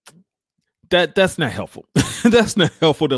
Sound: laughs

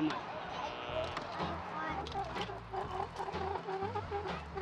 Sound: tires squeaking

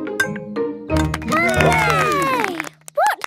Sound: all cheer

